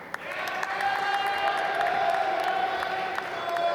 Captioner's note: applause